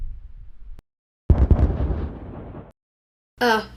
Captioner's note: bang! boom!